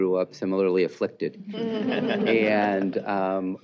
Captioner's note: laughter